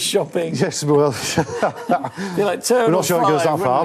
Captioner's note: chuckles